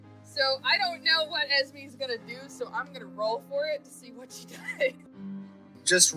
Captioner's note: laughs